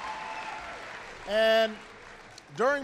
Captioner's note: applause